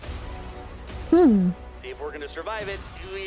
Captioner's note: excited